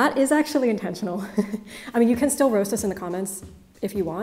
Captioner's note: chuckles